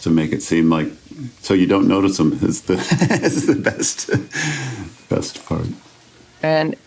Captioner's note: laughs